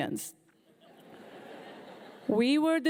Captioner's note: audience laughing